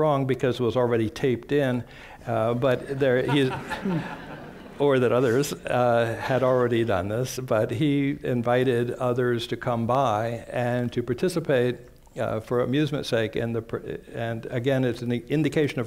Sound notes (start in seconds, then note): 2.7 laughter